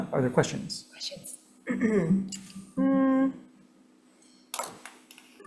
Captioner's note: clears throat